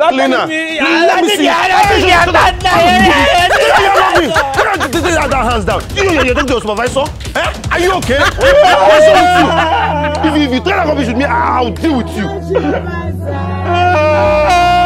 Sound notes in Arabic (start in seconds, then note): 9.4 مارك يبكي